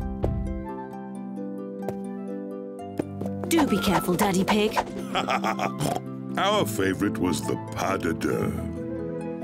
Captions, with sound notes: -Do be careful, Daddy Pig. -(LAUGHS AND OINKS) Our favorite was the pas de deux.